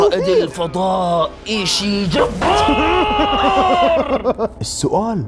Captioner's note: laughs